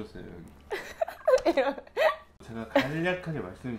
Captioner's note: hahahahahahahahahahaha